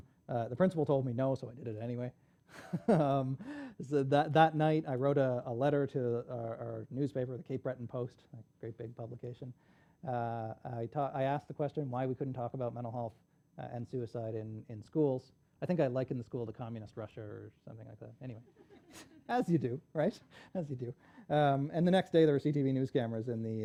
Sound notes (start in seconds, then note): 2.6 laughs